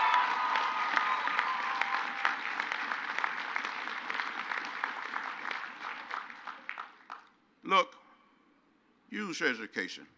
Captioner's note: crowd applauds